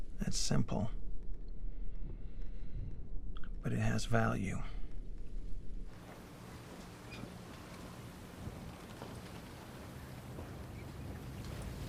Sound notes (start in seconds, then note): 6.0 waves lapping; 6.4 seagulls mewing